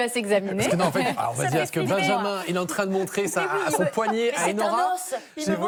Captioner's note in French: rires